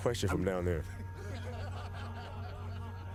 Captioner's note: laughter